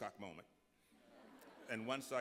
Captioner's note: laughter